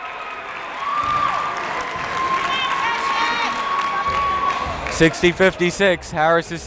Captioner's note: cheering; clapping